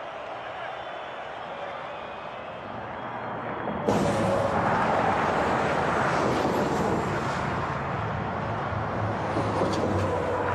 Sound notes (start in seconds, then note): 0.7 crowd chattering; 4.9 traffic roaring